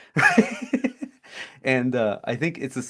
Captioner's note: laughs